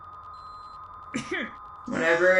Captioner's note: STARSCREAM clears her throat